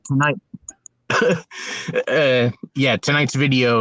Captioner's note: laughing